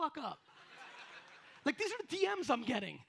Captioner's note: audience laughs